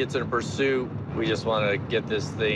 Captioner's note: none